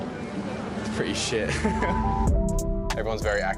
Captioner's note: laughing